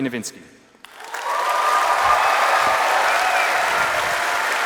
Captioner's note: applause